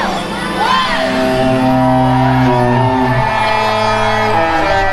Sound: horns blaring

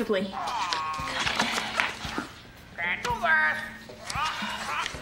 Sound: parrot squawking

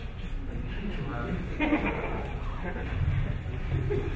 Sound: audience laughing

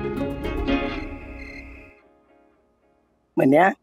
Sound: insects chirping

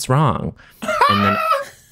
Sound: john howls

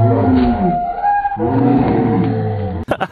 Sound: screaming

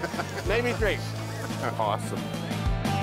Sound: laughing

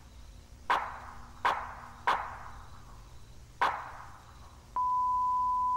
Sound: gunshots

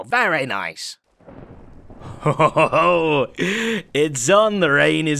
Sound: thunder

